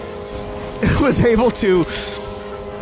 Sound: laughing

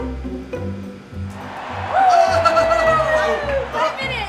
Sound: cheering

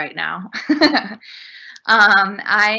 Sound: chuckles

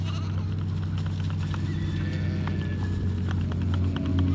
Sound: sheep bleating; bucket tapping

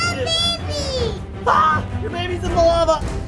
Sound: shrieks

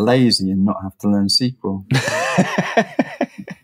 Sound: laughing

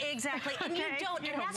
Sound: laughter

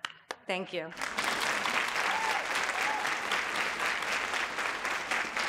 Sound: audience applauds

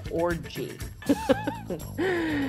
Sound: laughing

